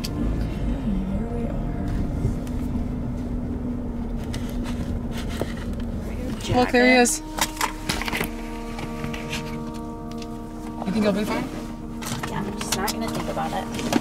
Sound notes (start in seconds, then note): none